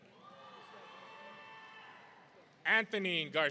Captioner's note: audience cheering